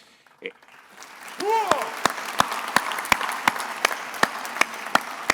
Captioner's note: attendees applauding